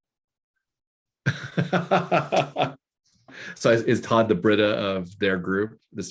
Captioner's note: laughing